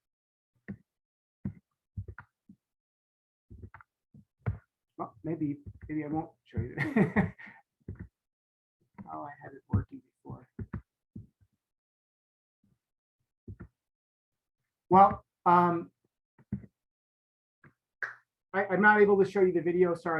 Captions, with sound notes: Well, maybe I won't show you. (laughs) Oh, I had it working before. Well, I'm not able to show you the video, sorry.